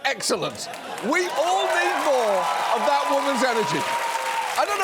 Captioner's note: audience cheering